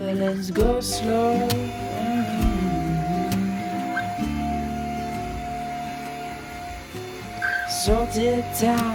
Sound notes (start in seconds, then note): 3.1 vacuum sound